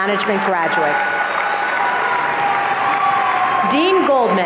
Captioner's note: audience cheering